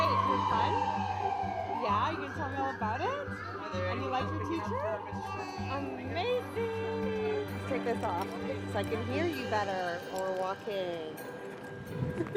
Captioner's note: sirens